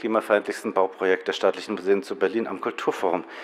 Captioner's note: none